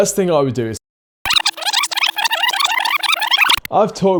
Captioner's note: video rewinding